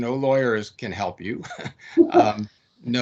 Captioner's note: laughing